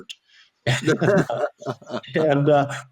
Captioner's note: laughing